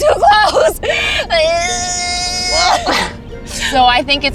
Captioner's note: groaning